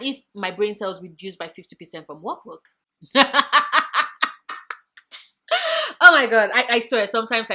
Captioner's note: laugh